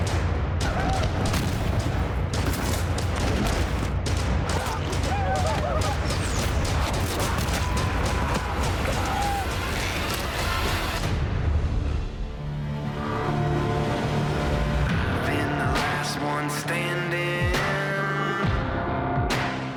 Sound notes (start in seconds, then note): 1.7 dramatic music; 4.4 gunshots; 5.9 yelling